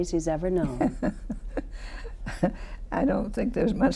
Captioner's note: laughs